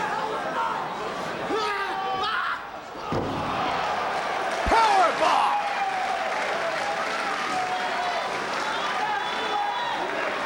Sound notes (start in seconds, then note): 2.6 body thudding